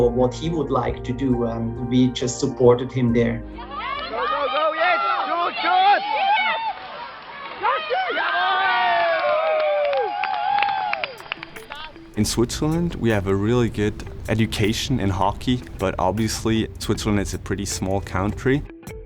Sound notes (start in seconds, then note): 3.6 people cheering